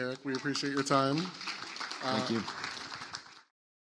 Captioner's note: audience applauding